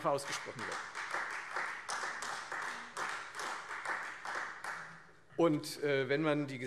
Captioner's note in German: Beifall Freie Demokraten